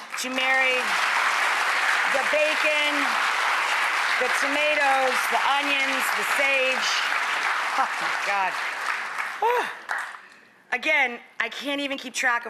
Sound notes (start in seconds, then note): 1.6 applause